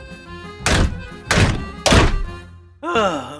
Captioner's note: louder slamming on door